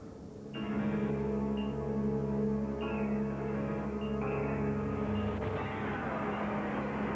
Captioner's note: bomb ticks